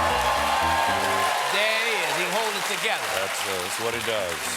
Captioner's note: cheers and applause